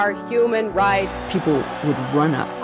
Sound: crowd applauds

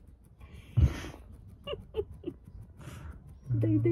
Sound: laughter

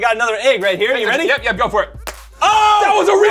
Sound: cracks

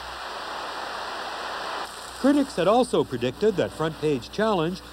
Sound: applause

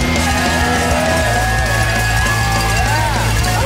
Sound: crowd; dramatic music; crowd; dramatic music; crowd; dramatic music

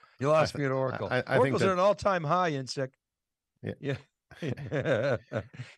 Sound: laughing

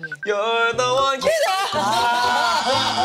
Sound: voice crack

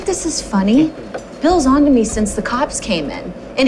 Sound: none

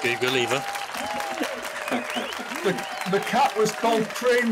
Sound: applause

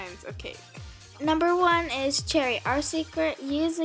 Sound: voiceover

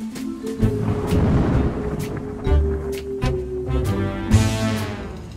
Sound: intense jazz music; thunder storm rumbles

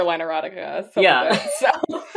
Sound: laughs

